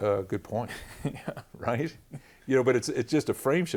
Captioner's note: laughter